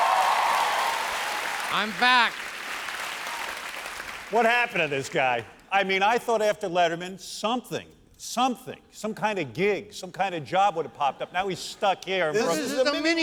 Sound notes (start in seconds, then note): 5.5 applause